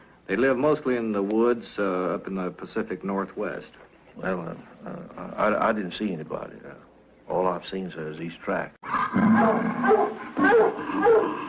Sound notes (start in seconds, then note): 8.9 dogs barking